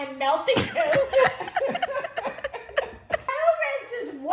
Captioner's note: both laugh